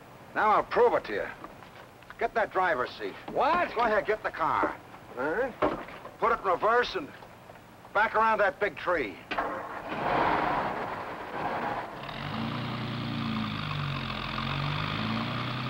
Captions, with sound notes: - Now I'll prove it to you. Get in the driver's seat. - What? - Go ahead, get in the car. - All right. - Put it in reverse and back around that big tree. (car revving) (car whirring)